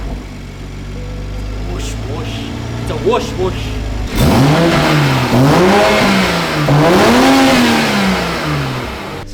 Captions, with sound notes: Whoosh whoosh. Its a Whoosh whoosh. (engine revving)